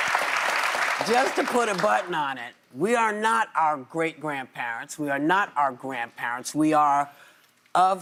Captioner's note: applause